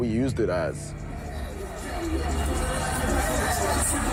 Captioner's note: hip- hop music playing; crowd cheering